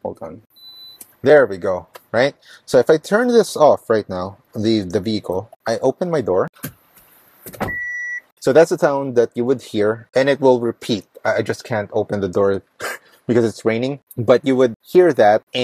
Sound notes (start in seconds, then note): 7.6 beeps; 12.7 laughs